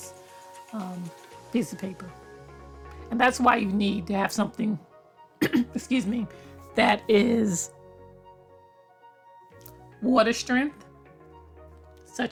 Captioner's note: cough